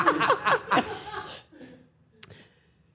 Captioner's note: Stephanie laughing